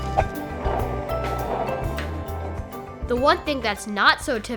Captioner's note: sound effect of scooter on sidewalk; sound effect of hula hooping